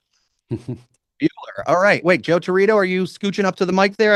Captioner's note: laughs